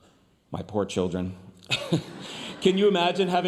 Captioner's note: chuckles; audience applauding